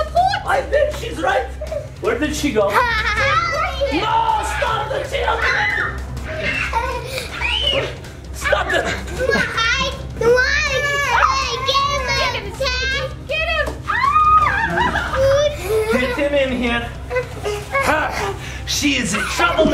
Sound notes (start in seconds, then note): 5.8 children screaming; 13.8 screaming